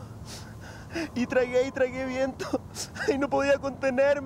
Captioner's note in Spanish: Llorando; Llorando